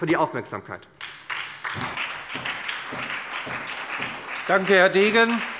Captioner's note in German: Beifall bei der SPD